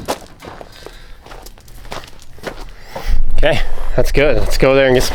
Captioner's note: footsteps